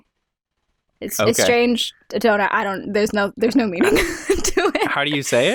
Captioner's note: laughter